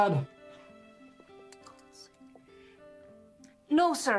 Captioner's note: whispering